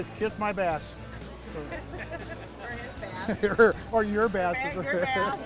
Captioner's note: laughing